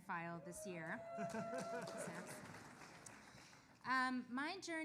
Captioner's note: audience applauding